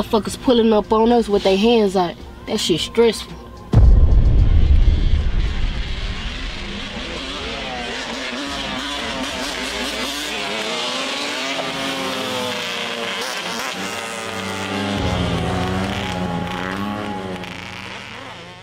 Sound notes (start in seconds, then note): 3.6 intense music; 8.2 bikes revving; 14.5 suspenseful music